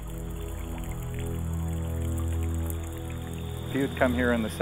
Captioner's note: water bubbling